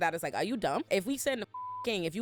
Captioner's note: beep